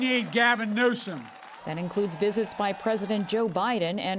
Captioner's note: cheering and applause